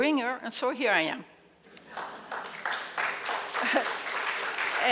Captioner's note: audience applauds